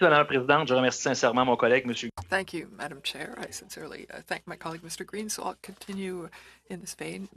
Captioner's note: speaking french